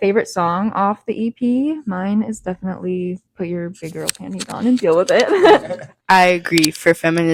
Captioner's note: laughs